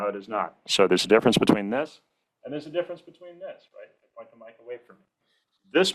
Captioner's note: far off-mic